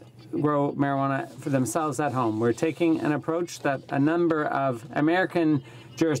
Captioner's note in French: voix de l'interprte